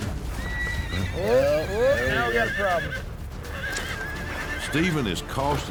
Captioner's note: horse neighs wildly